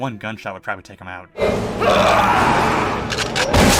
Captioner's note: Brenden Fraser screaming